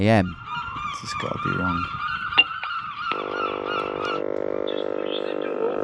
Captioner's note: seagulls cawing